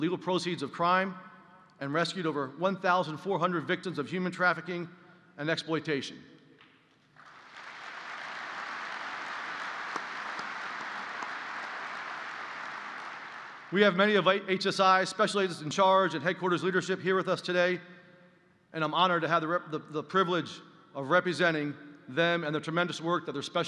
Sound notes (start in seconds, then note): 7.1 applause